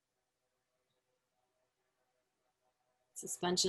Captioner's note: silence